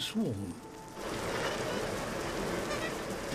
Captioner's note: huge squeaks and rustling